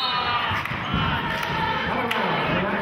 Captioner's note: whistling